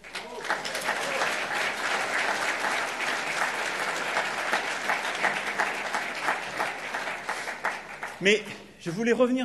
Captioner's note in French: Applaudissements